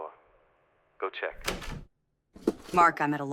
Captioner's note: door clicks